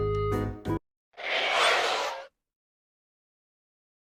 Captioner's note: Screeeech